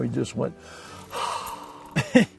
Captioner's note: sighs; laughs